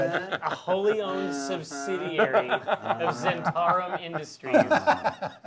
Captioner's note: laughing